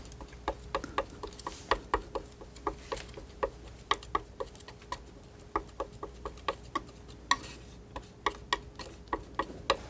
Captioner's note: tapping